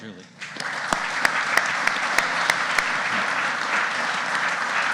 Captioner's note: audience applauding